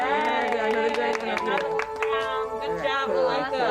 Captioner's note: people applauding